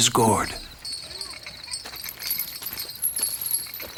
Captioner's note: chain rattles